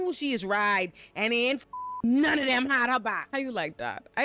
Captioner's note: beep